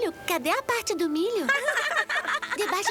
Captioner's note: laughter